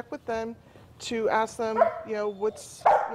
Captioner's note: dog barking